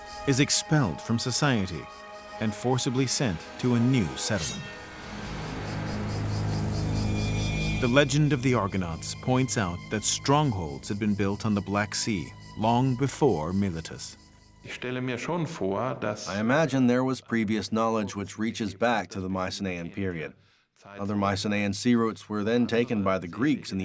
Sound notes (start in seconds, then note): 14.6 speaking German